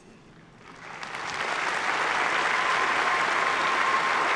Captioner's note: applause